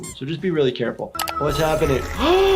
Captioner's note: keyboard clicking; eerie music; shockingly gasps